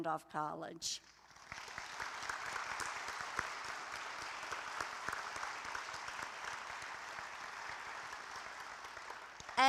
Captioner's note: applause